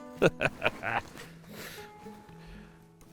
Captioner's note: laughter